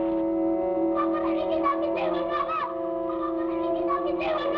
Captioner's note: child shouts